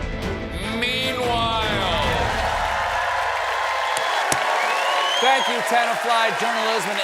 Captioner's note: cheers and applause